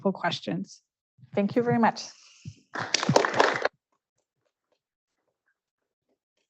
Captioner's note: audience applauds